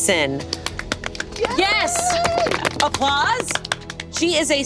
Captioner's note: all clapping